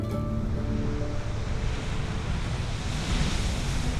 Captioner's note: waves crashing